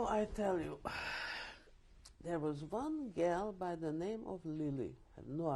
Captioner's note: sighs